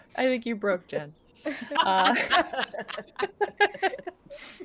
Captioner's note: people laughing